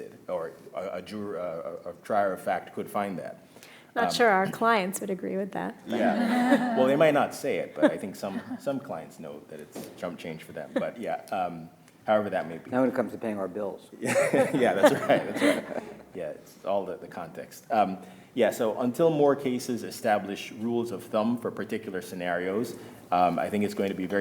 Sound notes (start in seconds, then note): 6.0 audience laughing; 14.0 all laughing